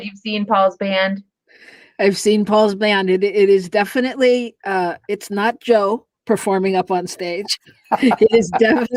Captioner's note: laughter